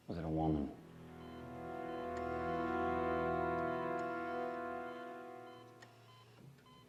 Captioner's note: beeping intensifies